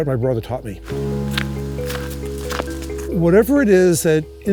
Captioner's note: footsteps